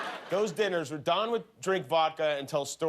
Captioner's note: laughter